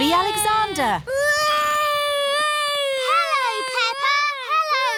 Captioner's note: continues wailing